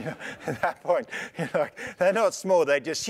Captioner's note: laugh